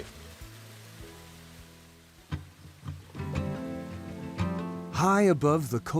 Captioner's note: river rushing